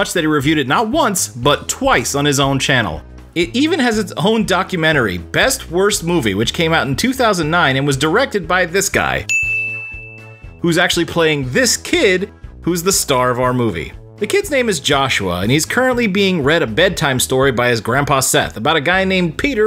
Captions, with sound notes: that he reviewed it not once, but twice on his own channel. It even has its own documentary, "Best Worst Movie'" which came out in 2009 and was directed by this guy *DING* who's actually playing this kid, who's the star of our movie. The kid's name is Joshua, and he's currently being read a bedtime story by his grandpa Seth about a guy named Peter